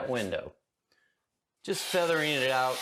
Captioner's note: spraying